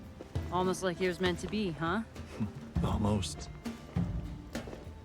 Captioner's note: laughs